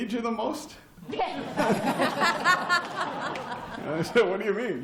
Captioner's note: laughter